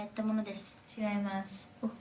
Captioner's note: speaking in foreign language